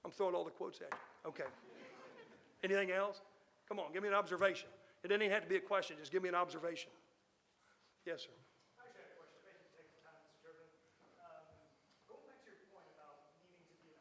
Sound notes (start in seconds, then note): 1.5 audience laughing